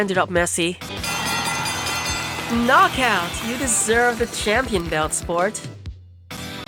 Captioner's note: wrestling gong, crowd cheer